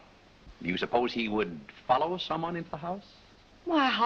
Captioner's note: none